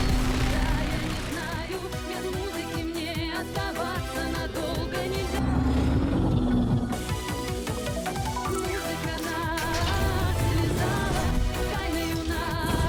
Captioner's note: gunfire; pop music